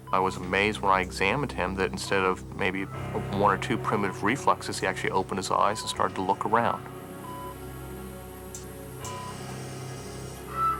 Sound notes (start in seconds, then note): 6.8 machine beeping; 9.1 suspenseful music